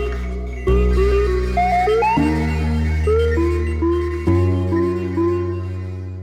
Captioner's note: gentle music; robots trilling